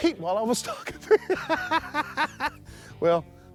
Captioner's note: laughs